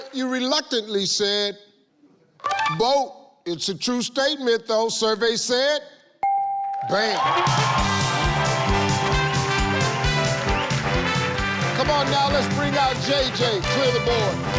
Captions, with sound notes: You reluctantly said, "Boat." It's a true statement though. Survey said...(ding) Great. (upbeat music) Come on now, let's bring out JJ. Clear the board.